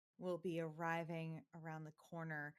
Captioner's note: none